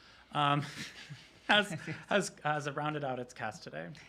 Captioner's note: chuckles